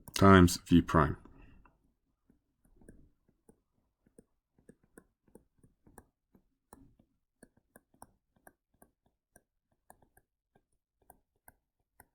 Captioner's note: writing